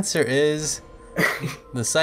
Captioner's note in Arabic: ضحك